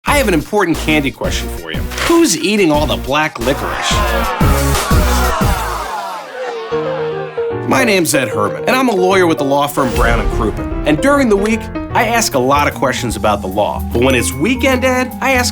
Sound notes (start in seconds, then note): 1.3 rock music; 3.4 noisy crowd; 6.8 jazzy music